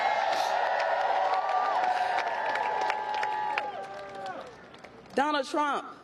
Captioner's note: applause